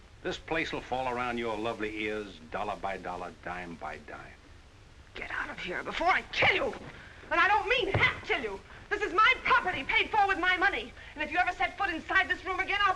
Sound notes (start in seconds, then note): 7.8 whack